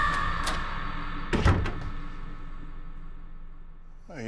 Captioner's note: door clicks and thuds